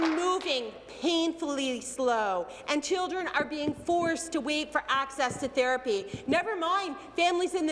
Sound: applause

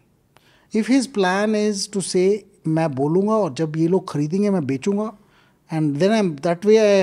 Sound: speaks in Hindi

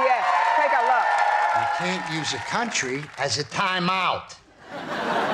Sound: applause

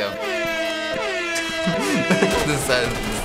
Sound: blaring; sad music; laughs

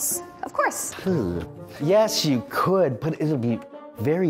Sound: thoughtful groaning

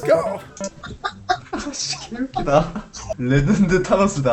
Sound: laughter

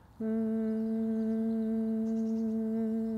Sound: humming

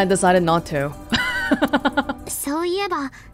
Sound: chuckles

